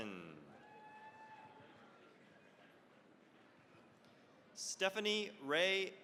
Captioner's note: cheering, applause